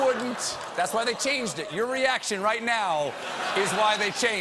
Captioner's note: laughter